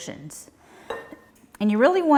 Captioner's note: bowl clatters lightly